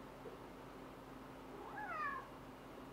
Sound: meow

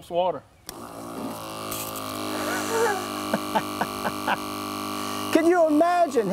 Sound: sound of Sprayer Pumping Water

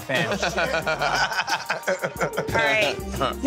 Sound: Pauly D and Ron laughing

